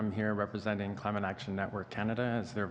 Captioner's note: speaking French